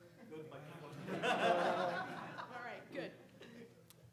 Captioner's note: audience laughs